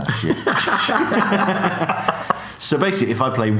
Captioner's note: laughs